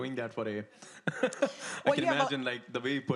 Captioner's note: laughs